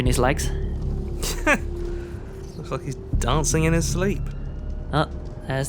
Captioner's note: laughs